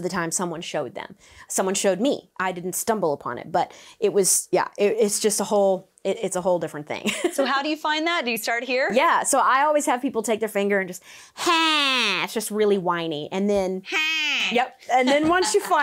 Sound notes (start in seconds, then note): 7.0 laughs; 15.0 laughs